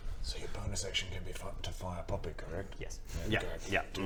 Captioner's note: whispering